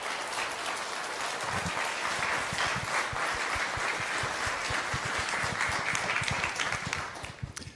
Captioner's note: applause